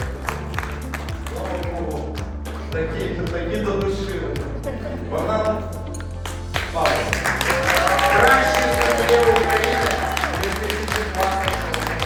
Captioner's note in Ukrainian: оплески; оплески